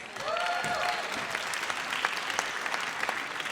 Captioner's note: audience cheers